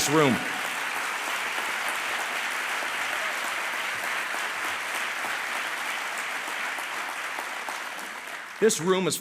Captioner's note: applause